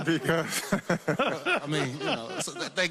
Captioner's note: laughter